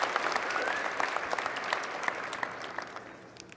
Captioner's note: applause